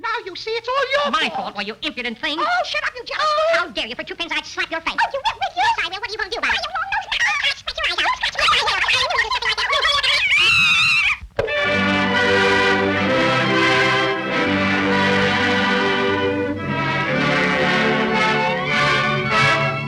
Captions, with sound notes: - Now you see, it's all your fault. - My fault? Why, you impudent thing. - Oh shut up, you jerk. Oh! - How dare you. For two pennies I'd slap your face. - Oh you would, would you? - Yes, I will. What are you gonna do about it? (both shouting in high-pitched gibberish) (both scream) (gentle music)